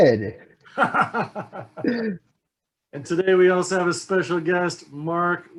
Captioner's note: laughs